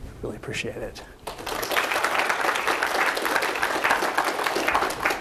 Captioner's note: applause